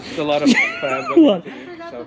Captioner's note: laughs